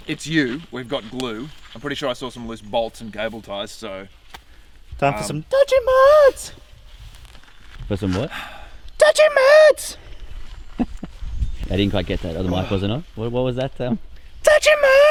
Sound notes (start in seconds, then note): 11.3 laughing